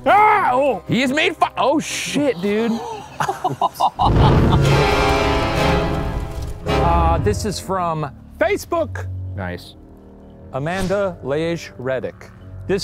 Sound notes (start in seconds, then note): 2.2 laughing; 5.1 demonic music